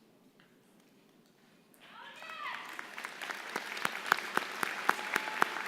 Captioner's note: applause